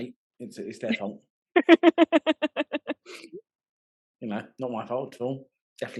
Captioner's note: laughing